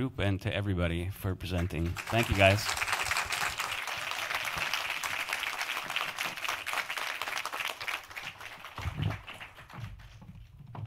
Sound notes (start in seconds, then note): 1.8 audience applauds